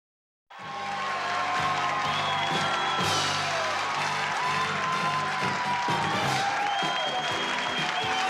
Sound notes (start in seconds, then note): 0.4 applause; 0.6 upbeat theme music